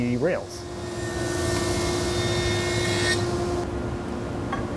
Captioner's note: machine whirring